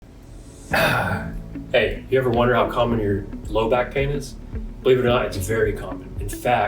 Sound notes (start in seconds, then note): 0.7 moans; 5.3 upbeat music